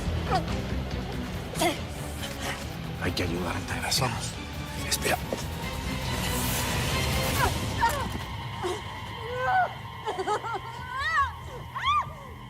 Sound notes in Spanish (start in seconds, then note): 4.1 Gritos